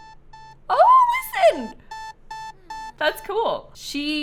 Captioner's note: alarm clock sound